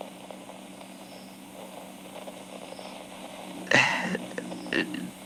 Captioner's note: faint sounds of bayou fx